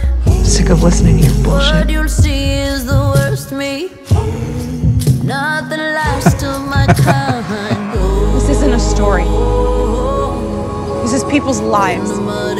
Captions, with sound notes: I'm sick of listening to your bullshit. (laughs) This isn't a story. This is people's lives.